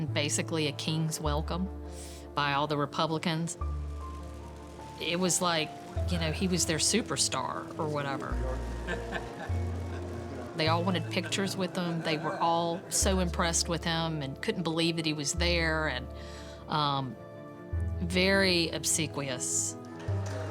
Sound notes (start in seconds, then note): 3.8 cameras clicking; 8.6 man laughs